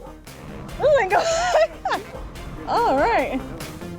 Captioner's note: laughing